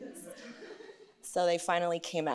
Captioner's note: laughter